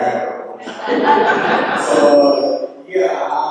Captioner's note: laughter